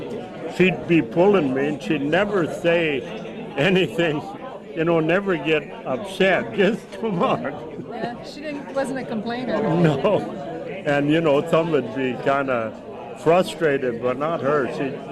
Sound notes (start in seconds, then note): 7.9 laughs; 10.6 laughs